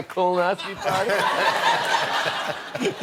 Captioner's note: laughter